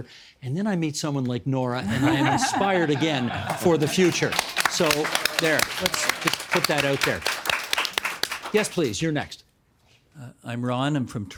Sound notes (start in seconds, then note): 3.7 applauding; 6.4 applauding continues